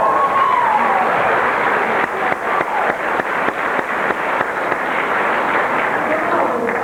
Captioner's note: cheering, whooping; applause